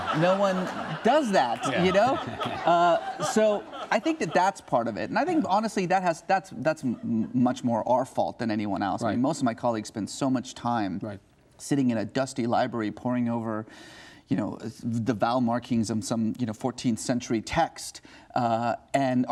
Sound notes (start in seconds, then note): 2.7 laughing